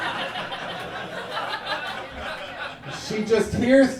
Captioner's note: audience laughing